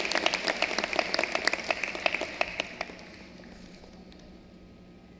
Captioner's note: cheering and applause